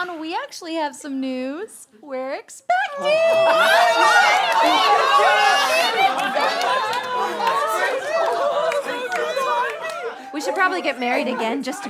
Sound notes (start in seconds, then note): 2.8 cheering